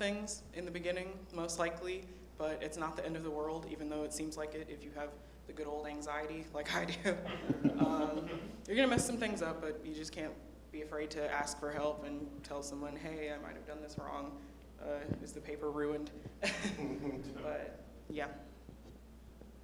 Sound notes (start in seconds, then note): 16.4 laughter